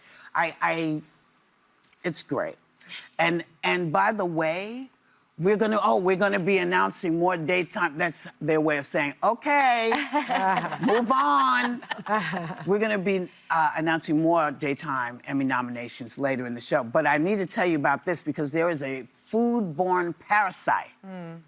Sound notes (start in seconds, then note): 12.2 laughter